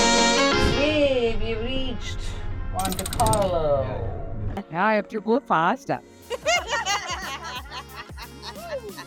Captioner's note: laughter